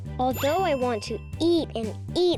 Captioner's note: check mark rings